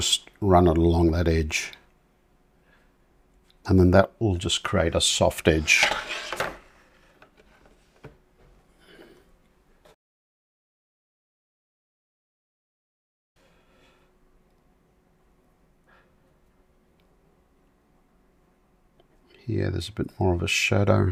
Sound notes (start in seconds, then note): 7.5 silence